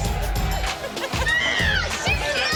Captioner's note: chuckling